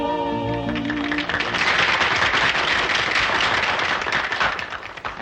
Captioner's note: crowd applauding